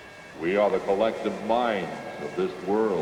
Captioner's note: disembodied Voice